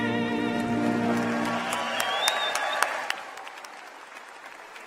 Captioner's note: applause